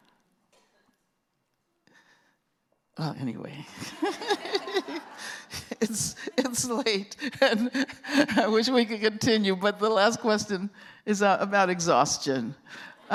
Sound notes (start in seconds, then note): 3.8 laughter; 3.8 laughing